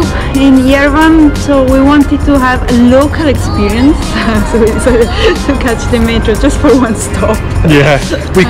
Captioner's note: laughing